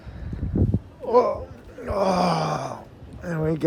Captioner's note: groaning